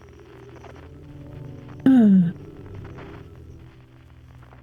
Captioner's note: sigh